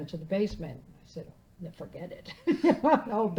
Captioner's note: laughing